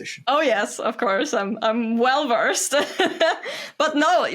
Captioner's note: laughs